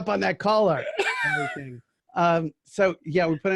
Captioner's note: laughing